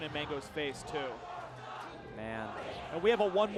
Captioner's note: crowd